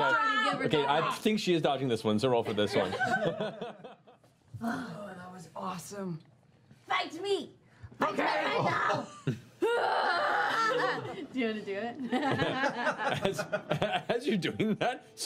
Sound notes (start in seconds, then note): 2.7 laughing; 9.9 battle screams; 11.3 calmly; 12.0 laughing